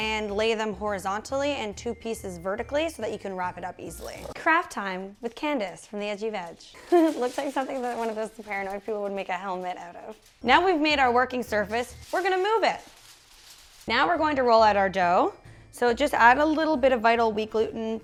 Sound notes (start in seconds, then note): 6.8 chuckles